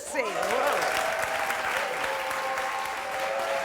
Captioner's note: clapping